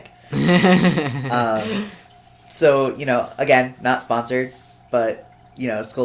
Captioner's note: laughs